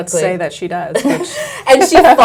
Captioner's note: laughs